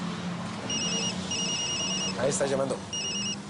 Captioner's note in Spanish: Suena un celular